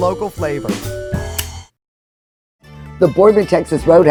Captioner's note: lighter clicking